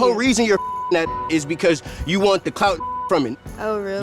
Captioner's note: beep